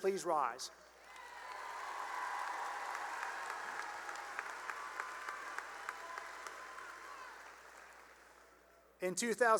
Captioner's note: cheering and applause